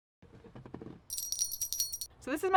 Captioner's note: bell ringing